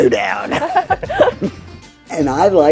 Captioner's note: laughing